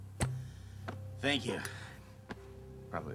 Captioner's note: popping